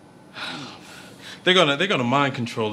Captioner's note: Wesley sighs